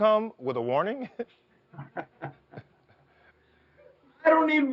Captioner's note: laughing